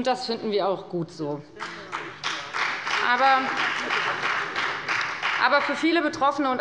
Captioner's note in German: Beifall bei der FDP und bei Abgeordneten der SPD